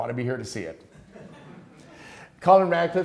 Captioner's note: students laughing